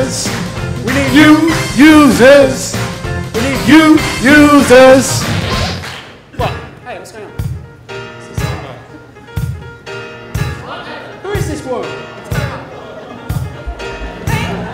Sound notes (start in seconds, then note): 5.1 sound: record scratch